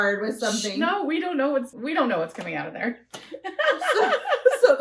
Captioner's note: laughter